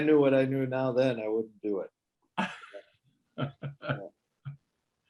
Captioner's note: laughs